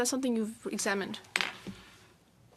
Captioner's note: speaking French